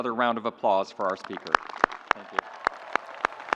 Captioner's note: audience applauds